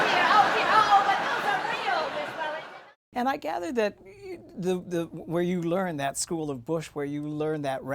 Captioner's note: laughter